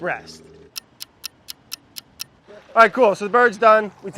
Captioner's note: clock ticking